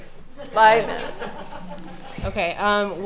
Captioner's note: laughing